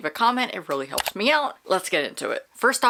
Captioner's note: mouse click